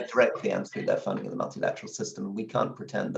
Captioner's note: distorted sound